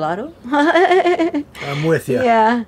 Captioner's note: laughs